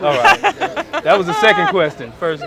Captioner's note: laughing